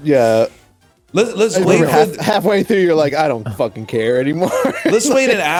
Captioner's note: laughs